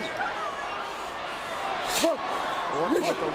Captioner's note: applause